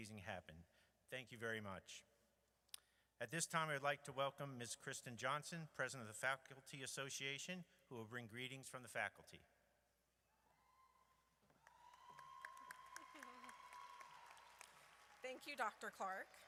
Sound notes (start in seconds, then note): 9.8 audience cheers